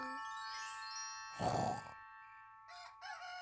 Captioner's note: both snoring; rooster crows